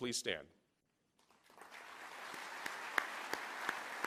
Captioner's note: applause